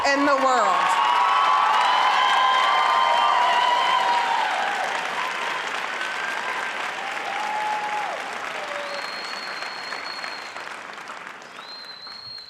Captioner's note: audience applauding